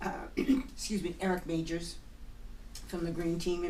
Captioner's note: voiceover; clears throat; voiceover